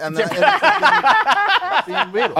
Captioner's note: laughter